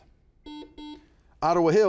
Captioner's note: buzzer buzzes